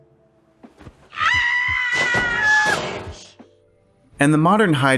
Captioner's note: screaming